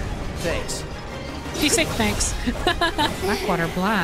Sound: laughter

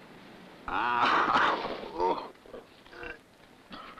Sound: coughs

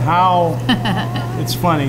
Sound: laughs

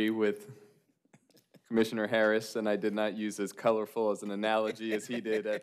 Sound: laughter

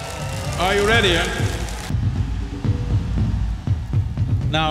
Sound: cheers

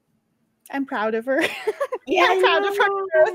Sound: laughs

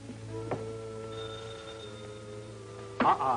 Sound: phone rings

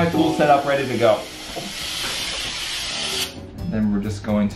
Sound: tools whirring

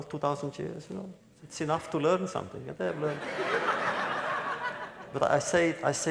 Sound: laughter

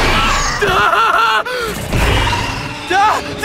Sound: screams; roars; panting

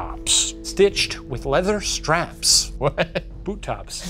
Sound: laughs

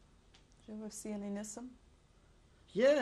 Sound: non-english

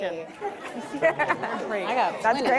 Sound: audience laughing

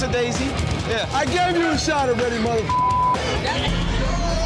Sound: beep

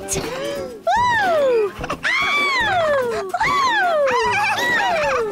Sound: giggles

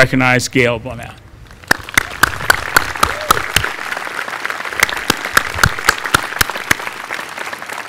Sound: applause

